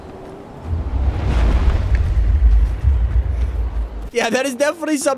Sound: deep roaring

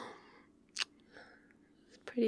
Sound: kiss

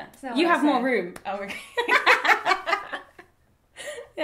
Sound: both laugh

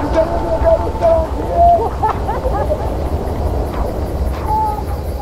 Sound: laughing

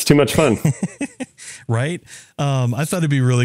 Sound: laugh

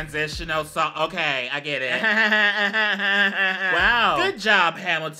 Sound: laughs

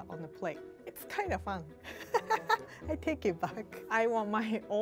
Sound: laughs

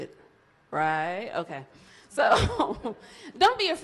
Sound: laughs

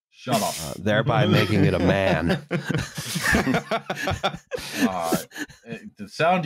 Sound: laughter

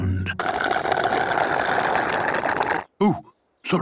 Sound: slurping

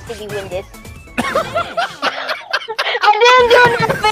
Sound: laughing

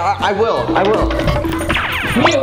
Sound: sound effects

